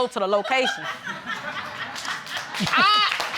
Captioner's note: audience laughing